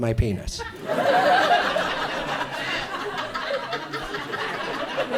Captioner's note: audience laughs